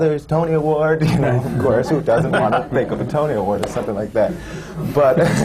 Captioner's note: laughter; laughter